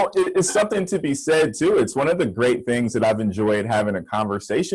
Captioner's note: laughter